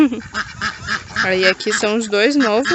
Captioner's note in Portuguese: risadas